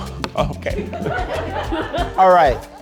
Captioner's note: audience laughs